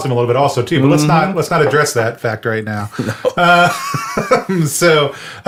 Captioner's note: laughs